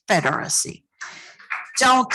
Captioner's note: applause